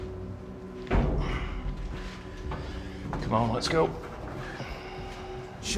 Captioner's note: groans